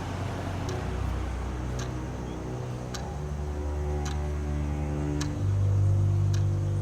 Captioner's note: dark string music continues; clock ticks rhythmically